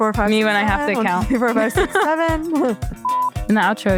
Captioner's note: laughs